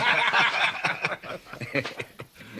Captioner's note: laughing